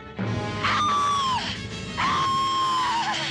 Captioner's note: çığlık atıyor